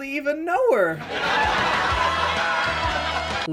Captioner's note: laugh track